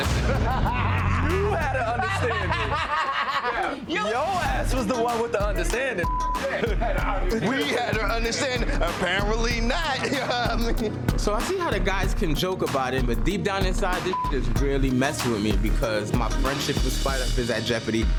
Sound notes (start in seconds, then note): 0.2 laughing; 6.0 beep; 14.1 beep